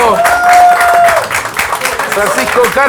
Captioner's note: applause